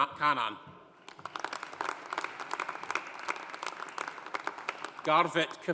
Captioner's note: audience applauding